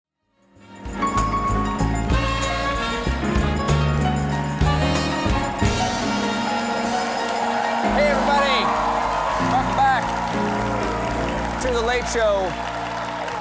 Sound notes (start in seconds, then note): 2.5 applause